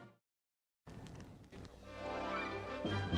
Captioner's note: rabbit munching; energetic orchestral music